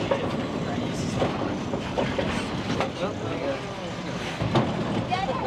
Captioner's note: people chattering and laughing